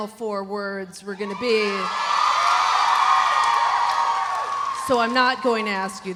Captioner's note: audience cheering